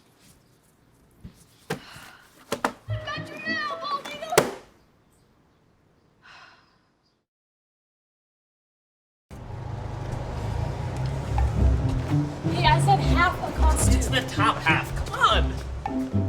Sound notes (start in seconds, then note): 6.2 sigh